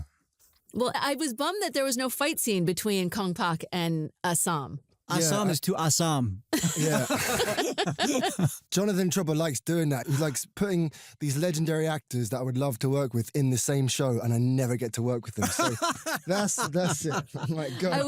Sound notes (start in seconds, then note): 6.5 laughter; 15.4 laughs